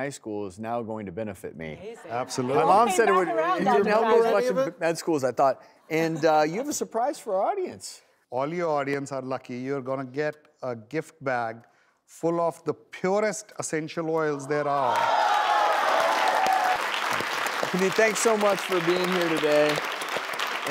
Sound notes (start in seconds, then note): 14.3 cheering and applause